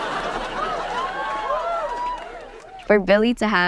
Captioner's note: audience laughing; audience cheering